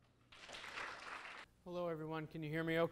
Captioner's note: audience claps